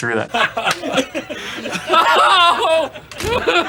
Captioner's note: all laughing